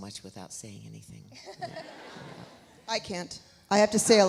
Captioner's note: Alexis laughs; audience laughs